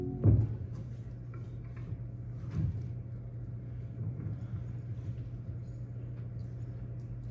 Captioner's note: none